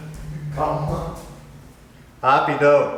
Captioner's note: speaking Portuguese